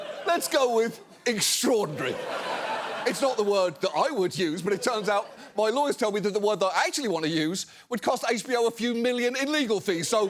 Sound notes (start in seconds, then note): 1.7 audience laughs